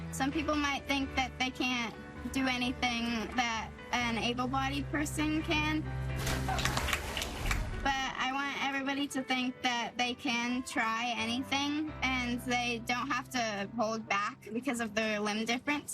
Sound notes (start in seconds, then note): 6.3 clapping